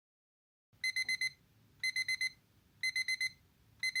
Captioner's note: shrill sound of the alarm clock